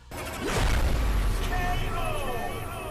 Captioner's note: loud rumbling